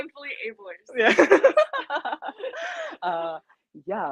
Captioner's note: laughs